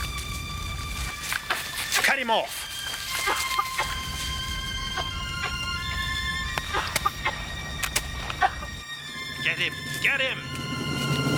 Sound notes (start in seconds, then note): 3.6 coughing